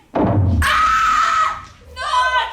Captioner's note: scream